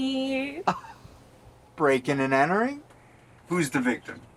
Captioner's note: chuckles